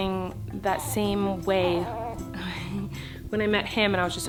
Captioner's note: baby coos